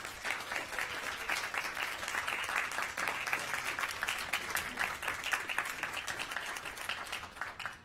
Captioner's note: applause